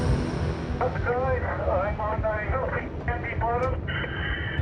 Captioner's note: speaking over radio